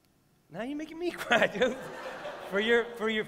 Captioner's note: laughter